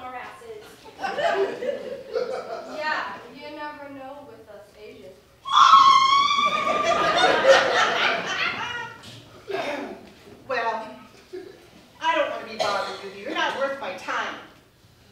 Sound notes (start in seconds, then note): 1.0 audience Laughter; 5.4 Screech